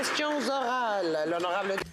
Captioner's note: some Applause